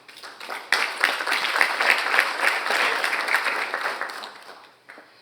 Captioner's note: audience applauding